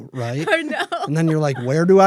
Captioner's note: laughs